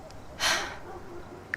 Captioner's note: sighs